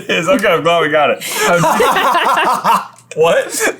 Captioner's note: laughter